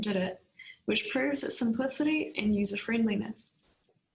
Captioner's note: speaking in Foreign Language